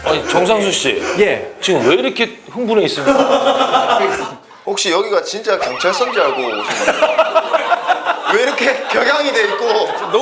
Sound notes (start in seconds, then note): 5.6 ha ha ha ha ha